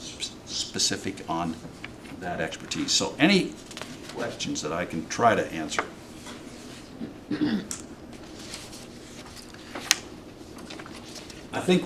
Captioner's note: clears throat